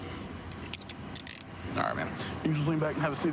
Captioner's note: handcuff closing